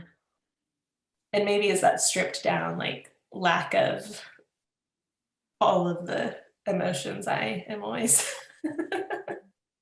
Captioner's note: laughs